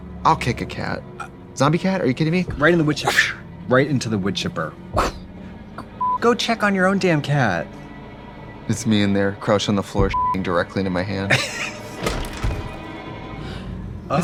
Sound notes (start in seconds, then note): 6.0 beeping; 10.1 beeping; 11.3 Katya laughs